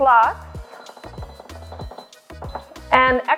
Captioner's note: beeping